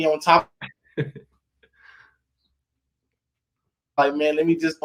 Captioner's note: laughing